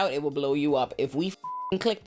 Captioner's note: beep